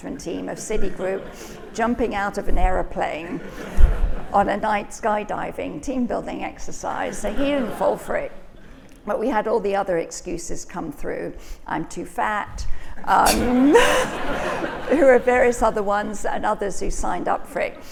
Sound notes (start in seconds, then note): 13.2 all laughing